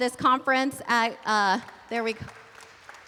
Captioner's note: applause